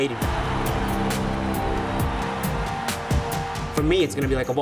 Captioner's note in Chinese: 歡呼聲與鼓掌聲不斷